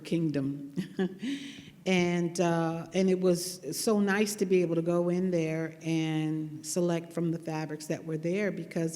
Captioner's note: laughs